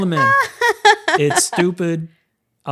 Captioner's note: laughs